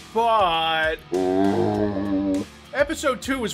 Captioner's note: zombie sound